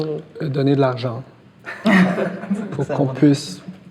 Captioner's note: laughs